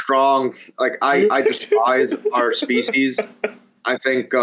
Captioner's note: laughs